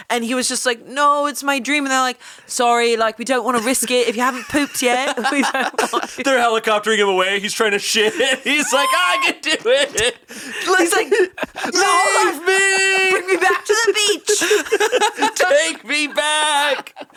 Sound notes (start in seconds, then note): 5.2 all laughing